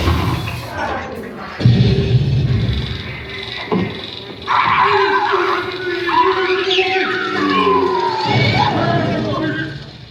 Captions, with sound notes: SWEDISH CHEF (Swedish babble) Hey der stüpid crazy birdsy!